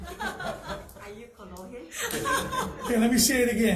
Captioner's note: all laugh